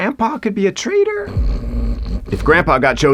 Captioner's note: ENFP snoring